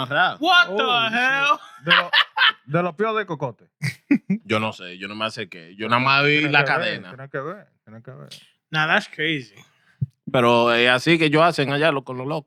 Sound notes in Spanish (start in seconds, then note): 0.8 Riendo; 2.1 Hablando en idioma extranjero